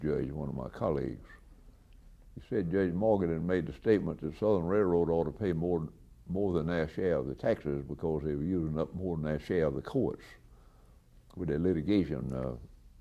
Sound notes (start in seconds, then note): none